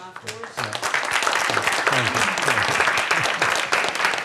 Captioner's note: applause